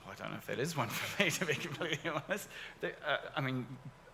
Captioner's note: laughs